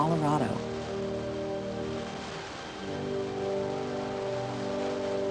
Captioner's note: water splashing